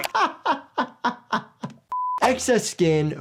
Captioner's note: laughter